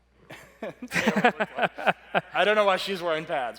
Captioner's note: laughing